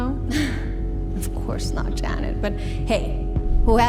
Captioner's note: laughs